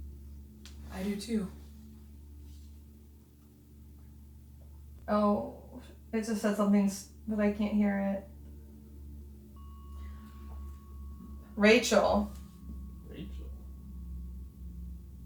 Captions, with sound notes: - I do too. - Oh. They just said something, but I can't hear it. (bell dings) Rachel. - Rachel?